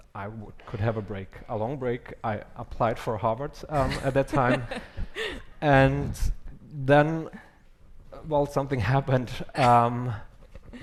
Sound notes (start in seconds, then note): 3.8 laughs